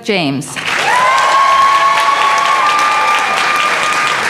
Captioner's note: applause